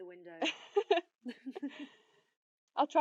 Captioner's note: they both laugh